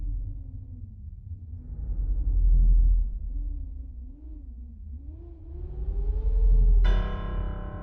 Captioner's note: howling wind; ominous music